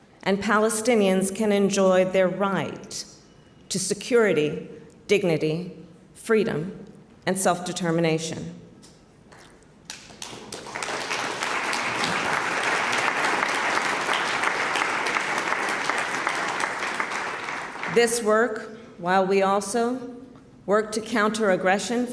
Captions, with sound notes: and Palestinians can enjoy their right to security, dignity, freedom, and self-determination. (Applause.) This work -- while we also work to counter aggression